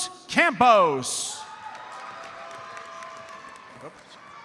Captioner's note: audience cheers and applauds